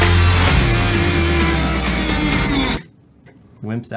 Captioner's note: saw buzzing